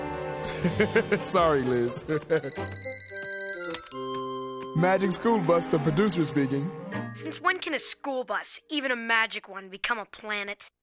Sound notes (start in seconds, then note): 0.4 laughs; 1.9 cellphone rings